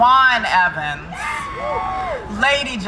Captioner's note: crowd cheering